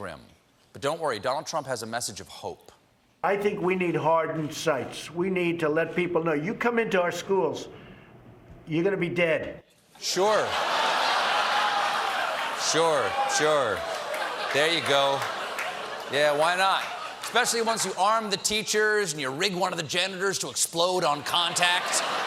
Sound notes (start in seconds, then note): 13.9 laughter